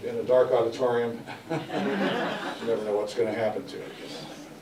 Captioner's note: audience Laughter